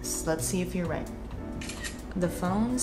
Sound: camera clicks

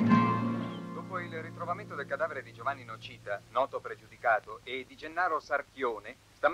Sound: radio

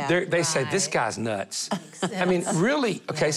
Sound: laughing

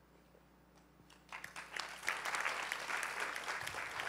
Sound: applause

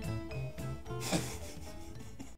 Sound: breathy laughs

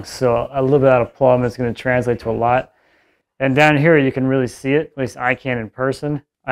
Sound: none

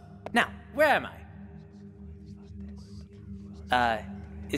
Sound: whispers

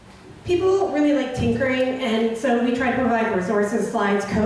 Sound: voiceover

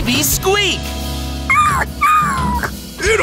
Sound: sad grunts

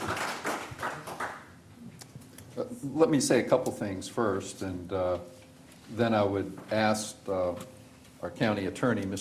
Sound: applause

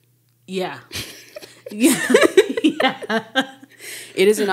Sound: speakers laughing

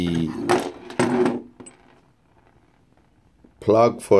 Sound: metal parts clanging

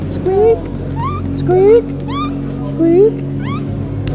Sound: squeak; birdlike squeaking; squeak

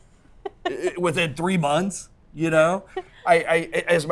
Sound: laughs

